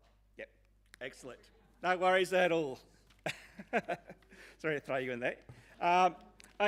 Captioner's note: chuckling